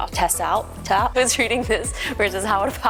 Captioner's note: giggling